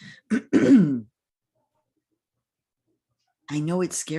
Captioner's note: clears throat